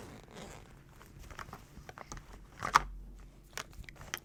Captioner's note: rummaging